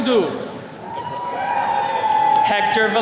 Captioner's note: attendees cheering